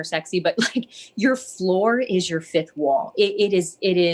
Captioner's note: laughs